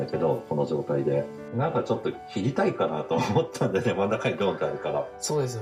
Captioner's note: laugh